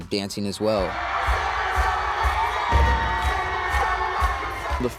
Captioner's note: cheering